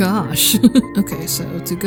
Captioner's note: chuckle